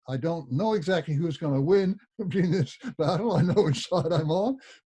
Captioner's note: laughs